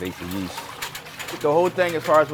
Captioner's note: water splashing; whisk clanking